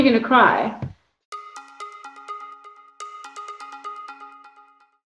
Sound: ipad chimes

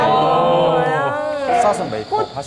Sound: grunt

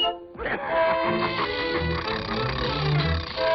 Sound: evil laugh

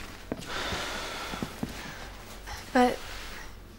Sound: Bray sighs

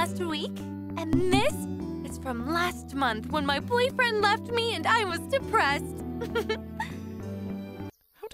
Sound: happily giggles

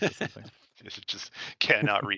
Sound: laughter

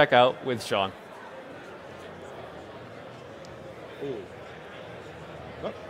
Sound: attendees chattering

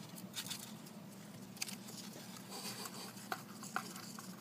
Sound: laughs quietly

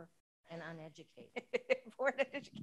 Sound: laughs

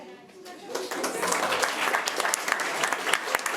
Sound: applause

